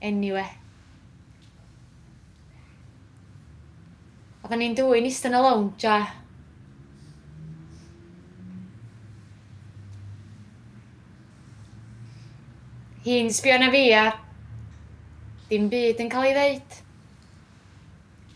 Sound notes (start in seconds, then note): none